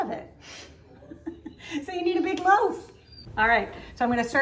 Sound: laughing

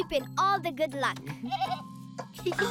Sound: Moyo bleating; laughing

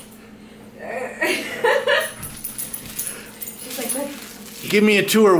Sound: laughing

